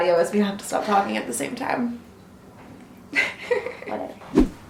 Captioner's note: laughs